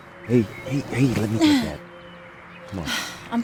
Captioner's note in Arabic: تنهدات